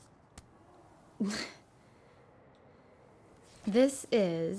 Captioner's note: Kirsten chuckling